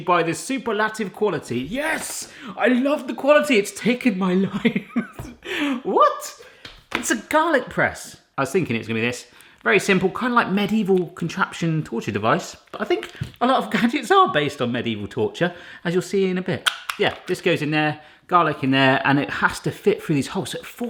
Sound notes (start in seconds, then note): 5.1 laughing